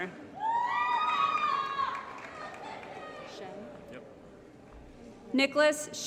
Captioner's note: applause & Cheering